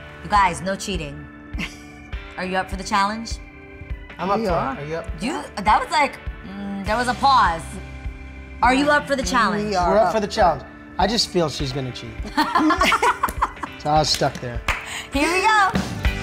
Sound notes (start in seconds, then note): 12.2 laughter; 16.0 upbeat music